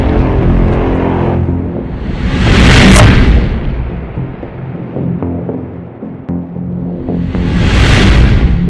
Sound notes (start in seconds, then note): 3.5 explosion